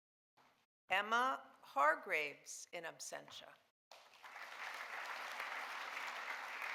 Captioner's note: audience applauding